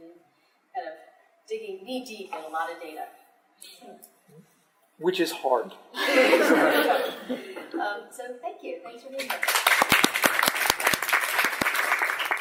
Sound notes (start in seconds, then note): 5.9 laughter; 9.2 applause